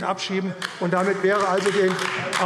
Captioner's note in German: Beifall AfD